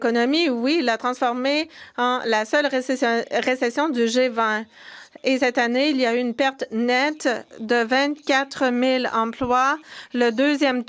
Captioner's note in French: voix de l'interprète